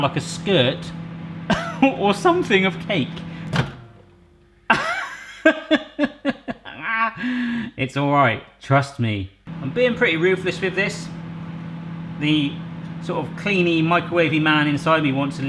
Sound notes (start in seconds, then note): 1.5 chuckling; 4.7 laughing